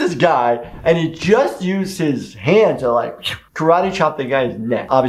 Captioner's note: chop sound